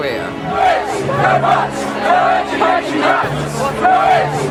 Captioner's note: chant